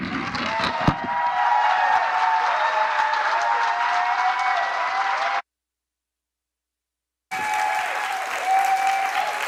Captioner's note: applause